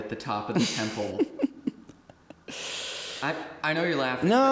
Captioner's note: Anubis giggling